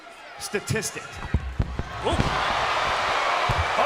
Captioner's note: microphone crackles; crowd cheers